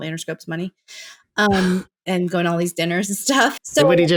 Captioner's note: laughter